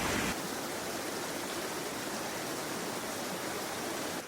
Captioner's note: water rushing